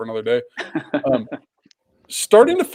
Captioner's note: laughs